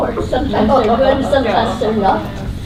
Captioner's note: laughter